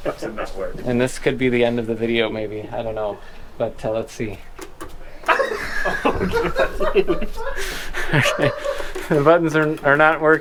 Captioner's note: laughs